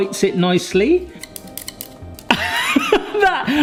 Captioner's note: sticks tapping; chuckling